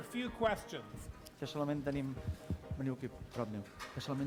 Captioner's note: non-english speech